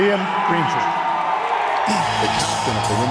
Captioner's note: audience claps and cheers